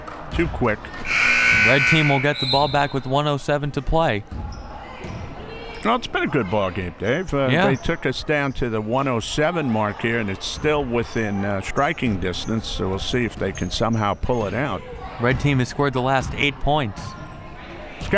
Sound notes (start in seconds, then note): 1.0 buzzer